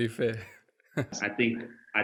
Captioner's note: laugh